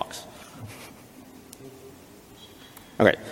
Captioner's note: chuckles